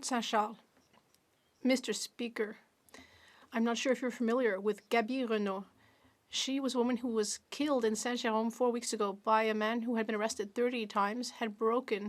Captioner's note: speaking French